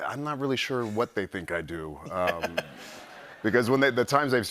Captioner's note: laughter